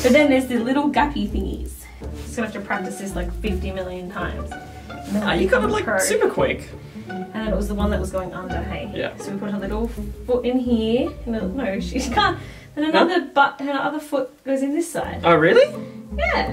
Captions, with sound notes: But then there's the little gappy thingies. Just gonna have to practices like 50 million times. - You got it like, super quick. - And it was the one that was going under, so we put a little foot in here. (laughs) Then her other foot goes in this side. - Oh really?